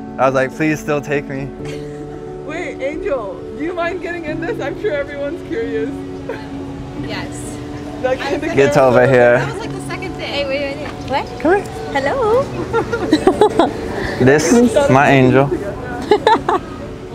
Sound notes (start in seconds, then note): 14.0 both laughing